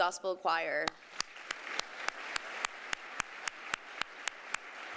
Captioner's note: applause